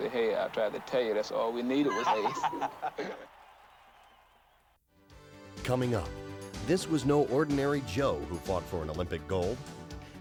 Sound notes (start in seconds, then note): 1.7 laughing